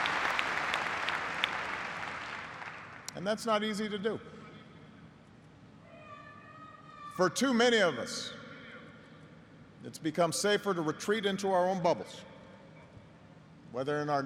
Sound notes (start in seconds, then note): 2.5 applause